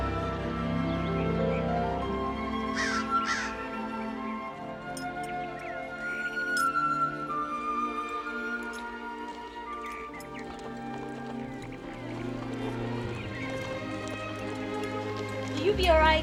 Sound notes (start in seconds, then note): 2.7 crow cawing; 3.6 birds chirping